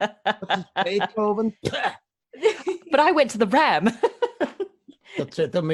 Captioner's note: laughs